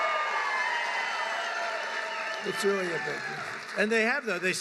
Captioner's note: applause